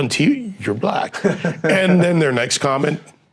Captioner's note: chuckling